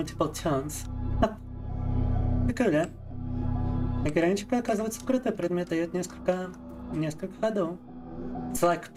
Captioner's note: speaking in Russian